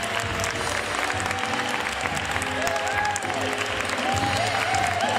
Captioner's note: audience cheering and clapping